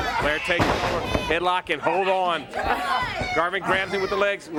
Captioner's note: crowd chatter